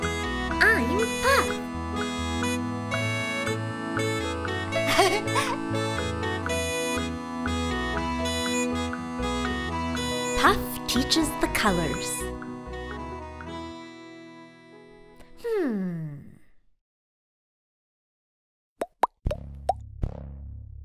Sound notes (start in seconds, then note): 4.8 laughs